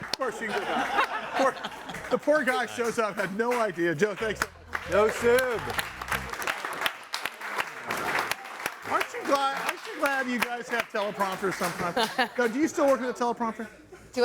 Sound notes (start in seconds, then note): 0.2 all laughing; 7.0 all clapping